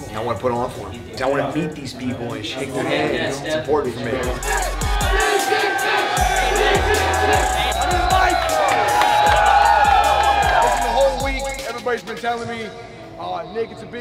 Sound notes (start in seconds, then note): 5.5 crowd chanting